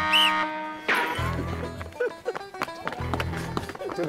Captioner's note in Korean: 후다다닥